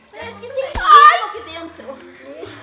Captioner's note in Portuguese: Grito